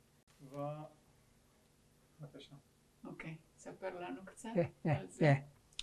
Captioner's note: hebrew; hebrew